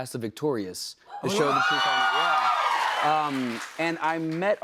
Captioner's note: cheers and applause